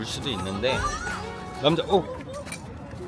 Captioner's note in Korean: 옆에서 들리는 비명